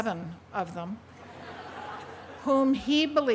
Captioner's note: laughter